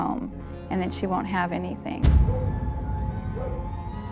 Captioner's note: dog barking